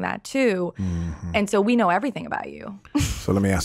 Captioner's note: laughs